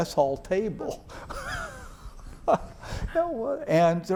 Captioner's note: laughs